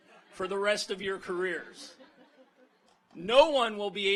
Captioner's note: audience laughs